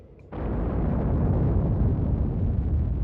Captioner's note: loud explosion